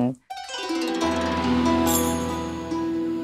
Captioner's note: mystical sounds